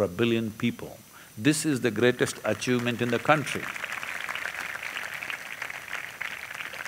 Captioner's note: applause